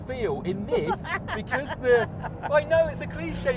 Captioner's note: laughs